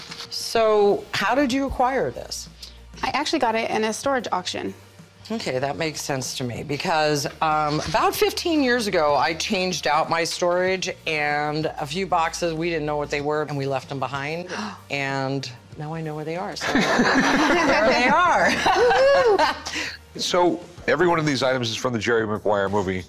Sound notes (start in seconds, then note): 16.6 laughter; 18.7 laughs